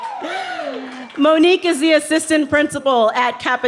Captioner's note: laughing